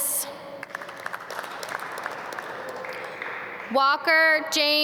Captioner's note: audience clap